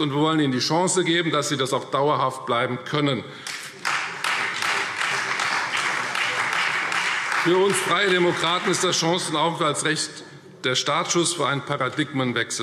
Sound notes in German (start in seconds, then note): 3.4 Beifall Freie Demokraten und BÜNDNIS 90/DIE GRÜNEN